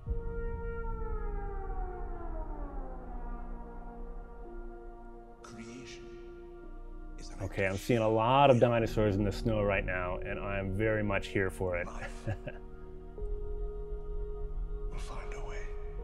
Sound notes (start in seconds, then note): 0.6 eerie music; 11.9 chuckles